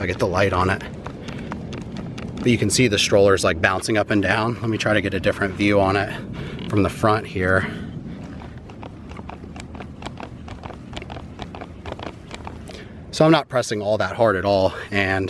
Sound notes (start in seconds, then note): 8.4 plastic squeaking